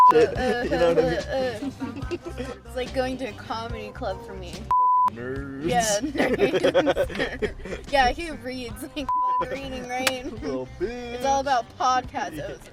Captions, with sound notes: - Type of s**t, you know what I mean? - Its like going to a comedy club for me. - (beep) Nerds. (laughs) - Yeah he reads (beep) it's all about podcasts. (both laughing)